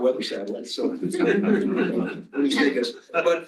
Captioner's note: laughter